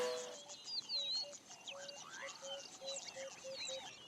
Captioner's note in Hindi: चहचहाहट